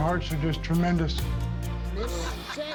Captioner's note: laughter